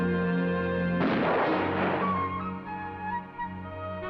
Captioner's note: gun firing